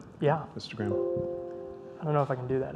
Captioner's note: chime